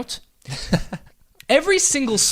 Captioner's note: laughs